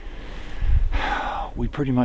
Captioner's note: sigh